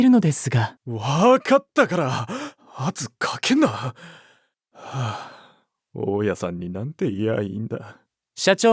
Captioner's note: sighing and mumbling